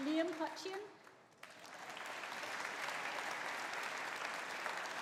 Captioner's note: audience applauding